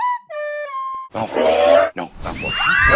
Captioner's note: furious Buckb- I mean, Witherwings snarl; class screams